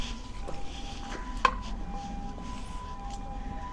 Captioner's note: deer scare tocks